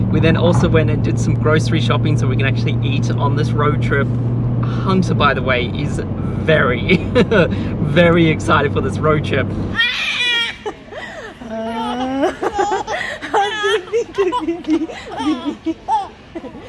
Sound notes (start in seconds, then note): 10.2 laughing; 10.4 yelling and laughing; 13.6 laughing